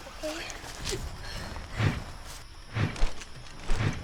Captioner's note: swooshing